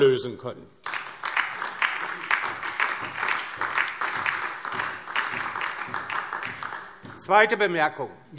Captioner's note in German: Beifall DIE LINKE und SPD